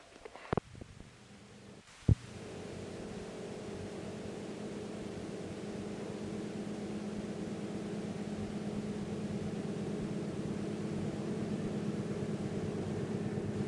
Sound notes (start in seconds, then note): 2.3 sound of train moving